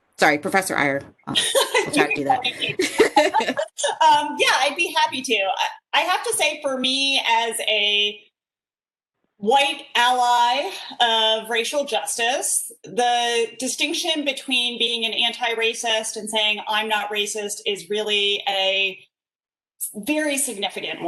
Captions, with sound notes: Sorry, professor Eyer, (laughs) - (laughs) Yeah, I'd be happy to. I have to say for me as a white ally of racial justice, the distinction between being an anti-racist and saying I'm not racist is really a very significant one.